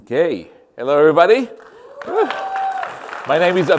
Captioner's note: applause